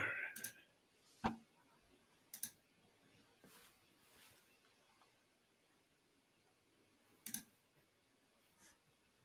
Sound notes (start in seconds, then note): 2.3 computer mouse clicking